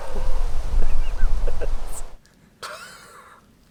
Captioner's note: laughing